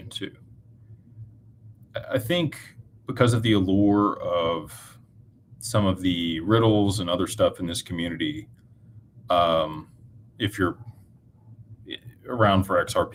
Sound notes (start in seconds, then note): none